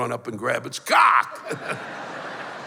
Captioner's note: laughter